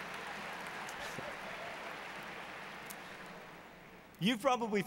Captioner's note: applause